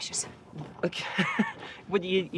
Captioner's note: Nigel laughs